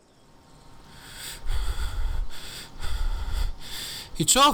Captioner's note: heavy breathing